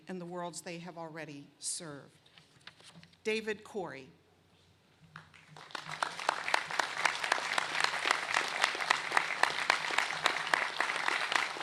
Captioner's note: applause